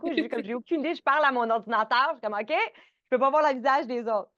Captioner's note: rire